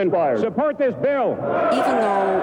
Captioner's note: cheering